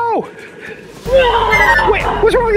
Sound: magic spell twinkling; dinosaur roars

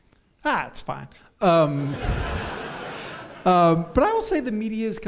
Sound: audience laughs

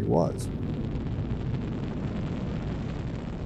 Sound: rocket rumbling

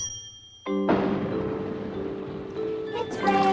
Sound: thunder

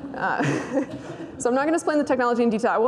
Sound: laughs

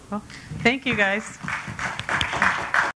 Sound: applause

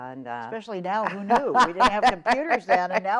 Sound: laughs

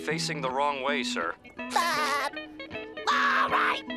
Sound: laughing

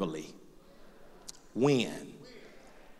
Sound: voiceover

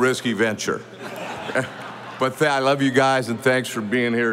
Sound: audience laughing

